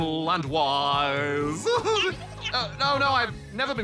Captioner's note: laughs